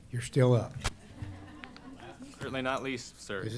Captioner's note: laughter